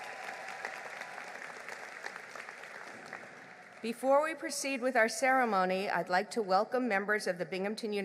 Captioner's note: applause